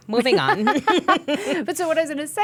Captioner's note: laughing